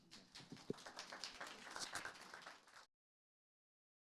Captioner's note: audience clapping